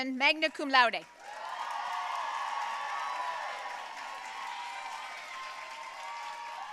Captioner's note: audience cheering and applauding